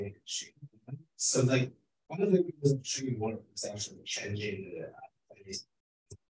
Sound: speaking faintly

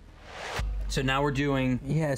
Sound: whoosh

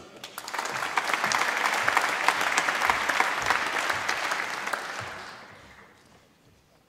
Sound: applause

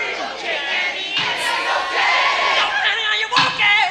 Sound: crowd

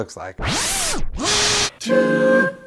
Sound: motor

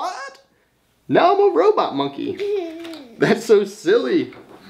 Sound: giggles

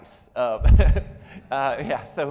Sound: laughs

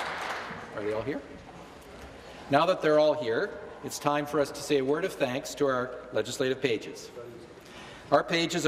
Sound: applause

